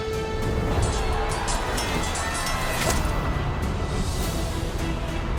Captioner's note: soldiers screaming; swords clanging; dramatic music continues